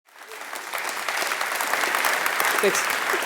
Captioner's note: audience applauding